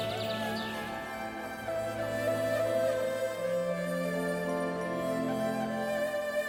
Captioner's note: birds twittering; gentle thoughtful music